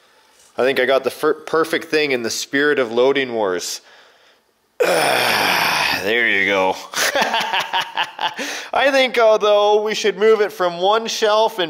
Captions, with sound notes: I think I got the perfect thing in the spirit of Loading Wars. (sigh) There you go, (laughs) I think, although, we should move it from one shelf,